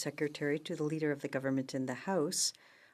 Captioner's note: speaking in French